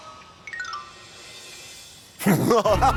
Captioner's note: bandits laugh